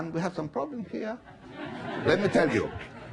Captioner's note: laughing